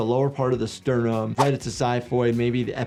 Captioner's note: graphics whooshing